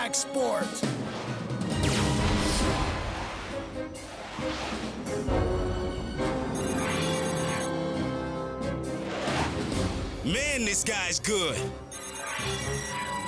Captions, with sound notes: WHO SAYS FLYIN' AIN'T A CONTACT SPORT?! (EXPLOSION) (DIGITAL BEEPING) MAN, THIS GUY'S GOOD.